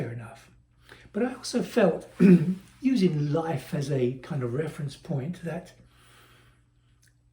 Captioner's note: cough